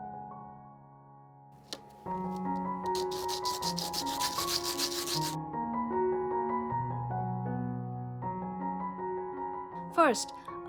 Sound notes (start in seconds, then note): 2.8 raspy sound of sanding; 7.1 soft melody